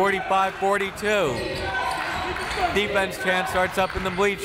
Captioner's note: crowd